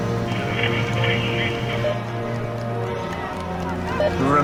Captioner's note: radio beeping